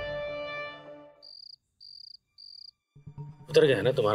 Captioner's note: crickets chirping